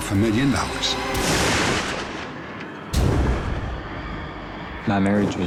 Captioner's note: gunshot